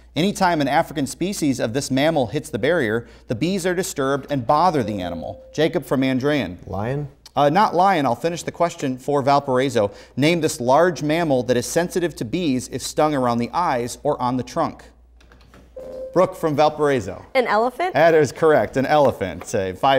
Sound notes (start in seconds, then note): 4.7 beeping; 15.8 beeping